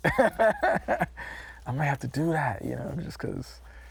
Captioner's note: laughing